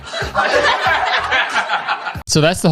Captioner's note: group laughs